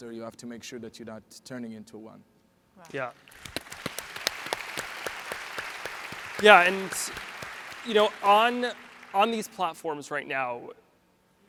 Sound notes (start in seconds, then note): 2.9 audience applauds